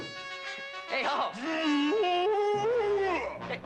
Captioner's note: loud bellow